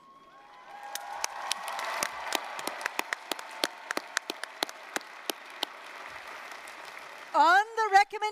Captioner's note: applause, cheering